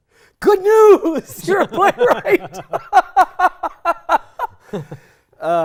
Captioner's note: laughing